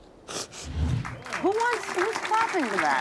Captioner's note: audience applauding